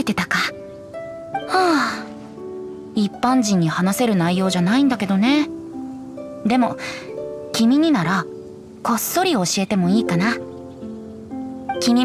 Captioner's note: sigh